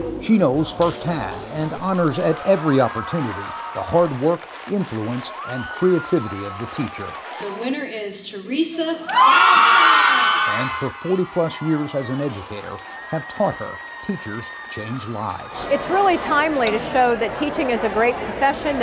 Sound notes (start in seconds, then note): 9.5 cheers, applause